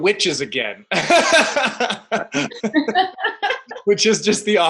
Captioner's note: laughing